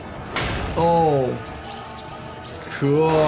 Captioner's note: none